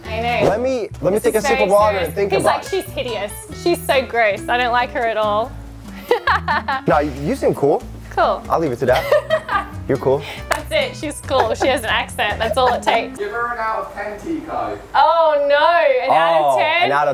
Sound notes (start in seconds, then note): 11.1 laughs